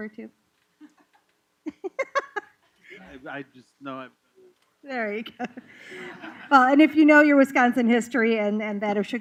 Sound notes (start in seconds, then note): 5.3 laughter